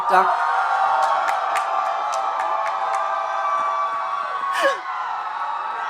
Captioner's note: audience cheering and applauding